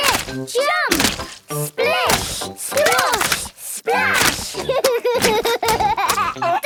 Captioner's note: laughs